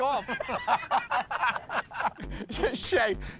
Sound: laughter

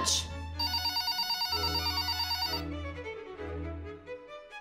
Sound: phone rings

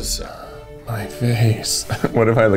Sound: laughs

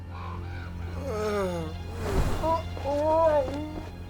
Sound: snoring, moaning, screaming

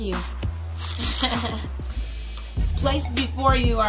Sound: laughs

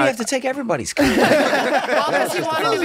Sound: all laughing

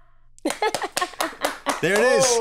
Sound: claps; laughs

